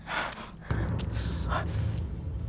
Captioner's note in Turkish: Ayak sesi